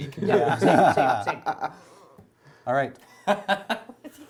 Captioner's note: laughing